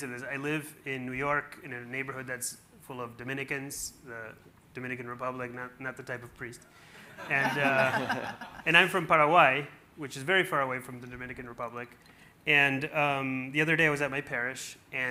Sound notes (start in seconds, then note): 7.1 everyone laughing